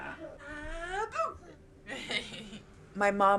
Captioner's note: laughs